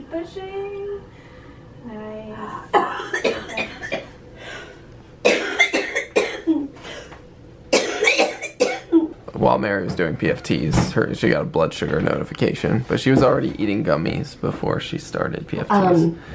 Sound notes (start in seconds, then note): 0.0 blowing out a deep breath while PFT tech encourages her; 2.6 coughing